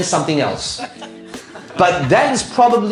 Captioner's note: audience laughing